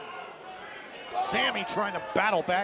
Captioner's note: crowd chatter